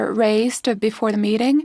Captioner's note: speaking FRENCH